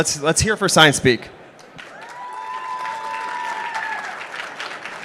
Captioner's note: applause